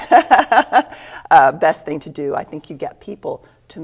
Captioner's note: laughs